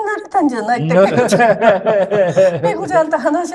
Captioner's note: laughs